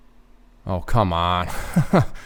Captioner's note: laughs